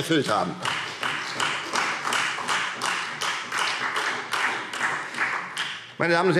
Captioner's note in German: Beifall Freie Demokraten und vereinzelt SPD